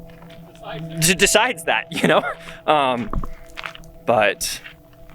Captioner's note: chuckling